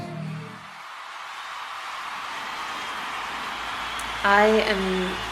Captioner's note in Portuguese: Fãs gritam